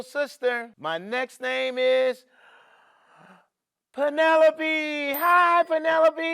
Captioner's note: inhales